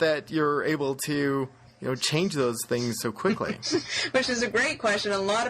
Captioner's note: laughs